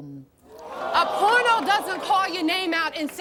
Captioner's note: audience groaning